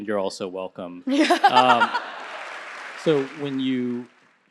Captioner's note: laughing; audience applauding